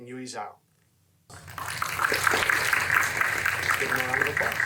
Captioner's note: audience applauding